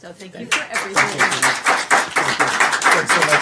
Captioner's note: applause